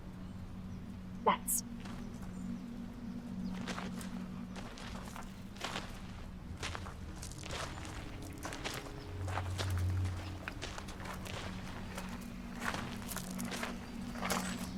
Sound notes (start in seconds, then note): 5.6 steady footsteps